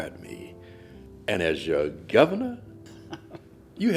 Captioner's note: host chuckling